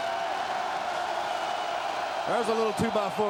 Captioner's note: crowd cheering